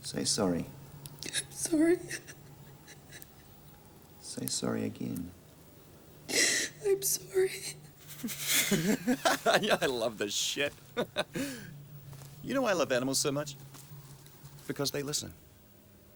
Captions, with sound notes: Say sorry. - I'm sorry. (whimpering) - Say worry again. - I'm sorry. (Graham laughs) - Yeah, I love this shit. You know why I love animals so much? Because they listen.